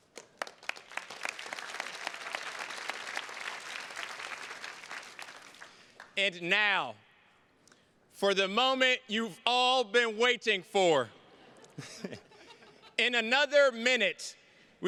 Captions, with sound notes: (attendees clapping) And now, for the moment you've all been waiting for. (chuckles) In another minute,